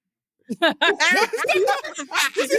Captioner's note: laughing